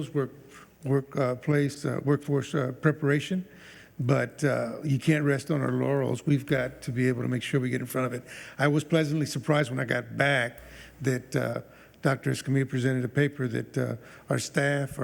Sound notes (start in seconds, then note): none